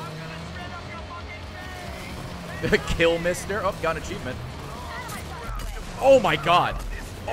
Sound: laughs

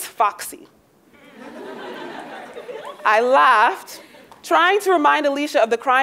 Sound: laugh

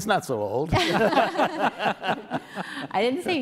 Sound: everyone laughs

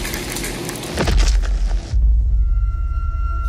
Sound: loud thud sound

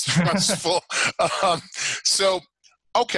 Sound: laughing

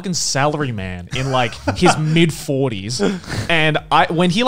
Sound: laughing

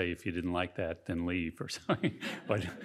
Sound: chuckles

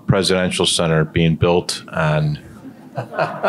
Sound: laughing

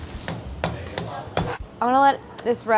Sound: thumping

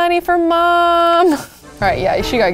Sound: laughs

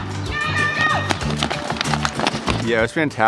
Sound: footsteps pattering

